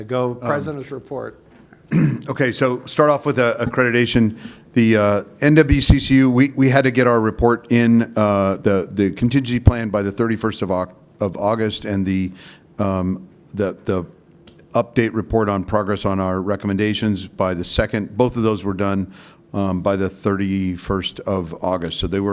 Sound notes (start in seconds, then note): 1.8 clears throat